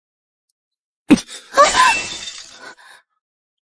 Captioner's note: gasp!